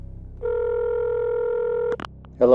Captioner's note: phone rings